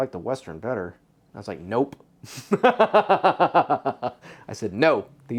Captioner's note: laughs